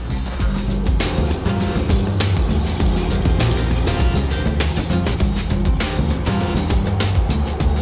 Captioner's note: large Truck sound in distance